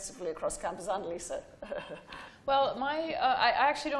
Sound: laughing

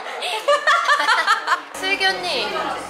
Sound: laughing

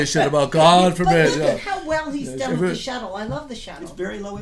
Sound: voiceover

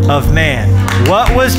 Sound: applause

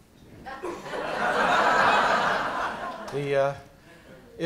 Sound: laughter

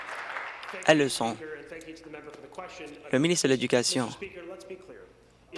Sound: applause

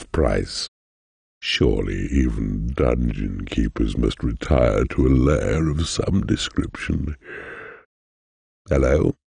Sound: yawn

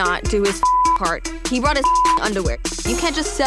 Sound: beep

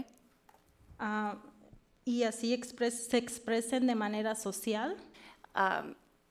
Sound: speaks foreign language

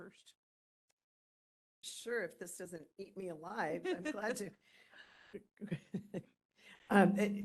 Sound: laughing

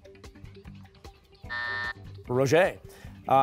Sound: buzzer

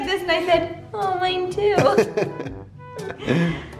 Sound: laughs

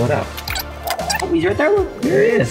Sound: lizard "chirping"

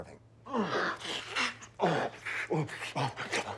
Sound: groans, gasps

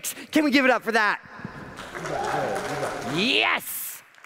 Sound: audience applauds

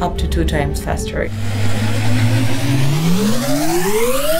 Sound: whirring

